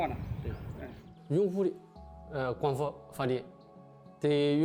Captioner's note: speaking chinese